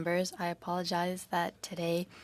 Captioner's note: speaking French